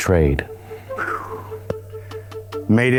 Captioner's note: exhales